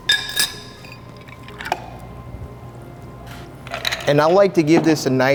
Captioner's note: clanks bottle; clanks glass; pours liquid